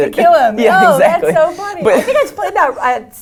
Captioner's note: laugh